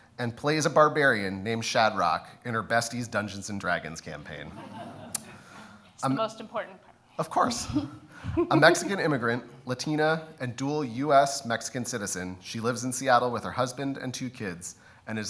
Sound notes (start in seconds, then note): 4.4 audience laughs; 8.2 laughs